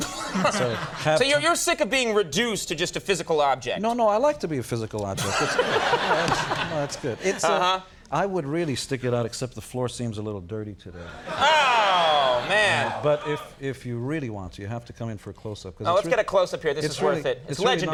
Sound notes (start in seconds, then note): 0.0 Conan chuckles; 5.2 audience laughs; 5.2 Conan laughs; 11.0 audience chuckles